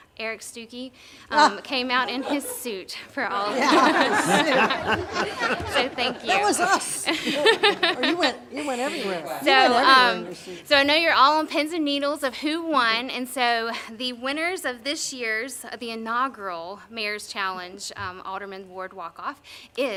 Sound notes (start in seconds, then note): 3.4 laughter